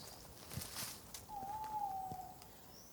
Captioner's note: owl hoot